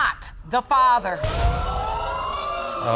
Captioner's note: audience exclaim